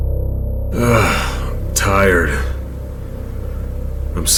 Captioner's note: suspenseful music; groaning